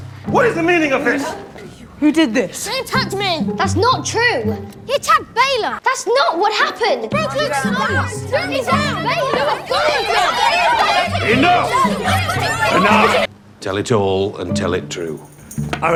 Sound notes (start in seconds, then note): 7.2 shouting